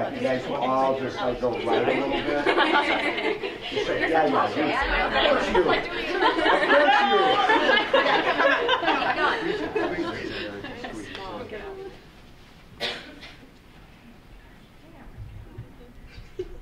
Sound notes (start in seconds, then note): 1.7 laughing; 6.9 laughing